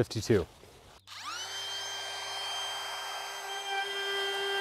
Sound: drilling

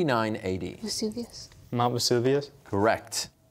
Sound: quietly

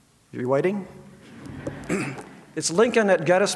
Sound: audience laughs

